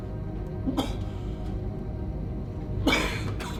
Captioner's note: men coughing